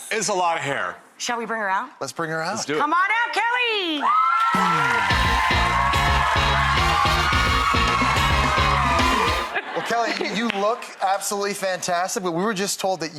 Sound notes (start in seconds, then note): 4.0 audience cheers and applauds; 9.2 laughs